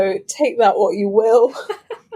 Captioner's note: laughs